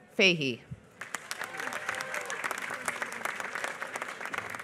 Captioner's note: applause